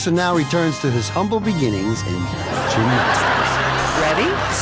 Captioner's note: audience laughing